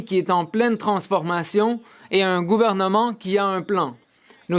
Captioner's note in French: voix de l'interprète